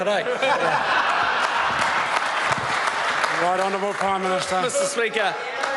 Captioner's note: members applaud